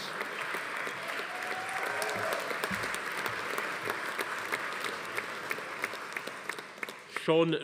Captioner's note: audience applauding; attendees cheering